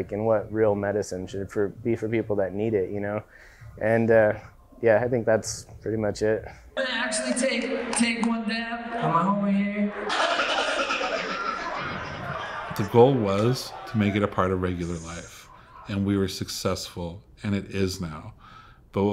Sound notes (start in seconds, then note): 10.0 people chattering; 10.0 record scratching